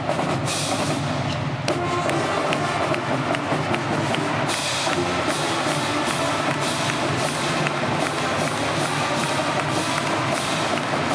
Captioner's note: whistle